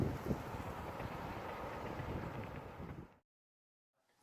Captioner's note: wind blowing; truck Noise